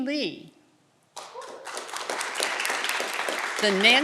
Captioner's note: audience clapping and cheering